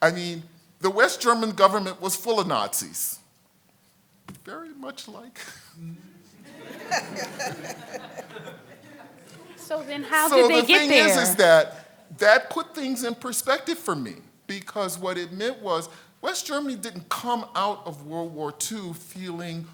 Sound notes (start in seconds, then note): 5.8 congregation laughs; 5.8 laughs